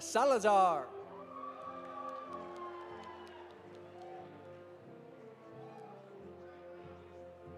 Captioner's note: audience applauding; audience cheering